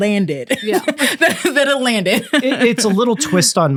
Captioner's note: laughing